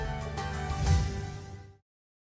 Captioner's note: whoosh